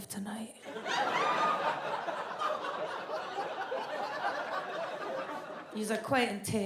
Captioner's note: audience laughs